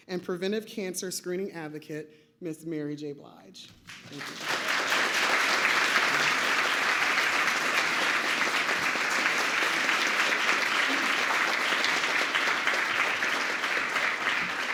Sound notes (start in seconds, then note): 4.1 applause